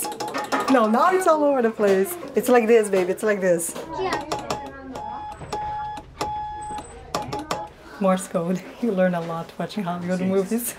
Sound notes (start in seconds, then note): 4.0 beeps